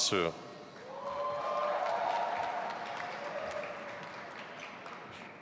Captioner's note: audience applauding